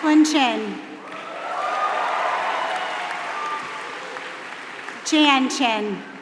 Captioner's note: applause